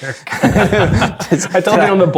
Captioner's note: players laughing